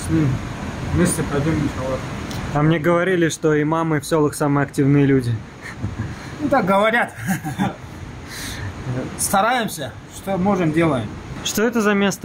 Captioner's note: laughs